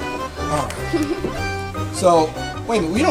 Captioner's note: giggles